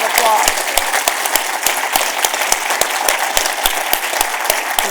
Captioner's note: round of applause